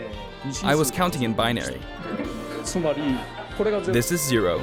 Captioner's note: laughter